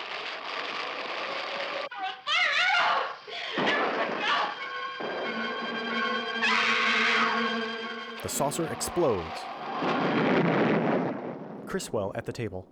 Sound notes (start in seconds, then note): 9.4 the saucer explodes